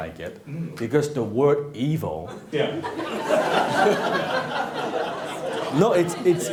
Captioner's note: laughing